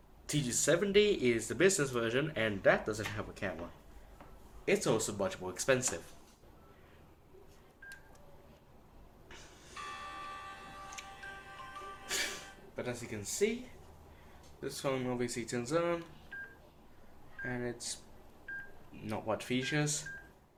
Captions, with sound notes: T270 is the business version, and that doesn't have the camera, it's also much more expensive. [Sony Ericsson Startup Sound] But as you can see, this phone does turn on and it's not what features